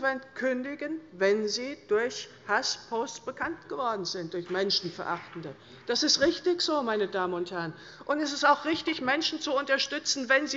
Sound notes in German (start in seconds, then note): 5.1 Beifall bei Abgeordneten der SPD